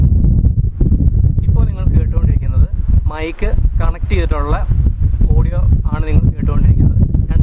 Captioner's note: heavy wind